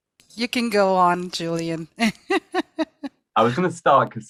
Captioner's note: laughs